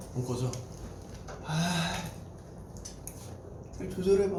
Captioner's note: sigh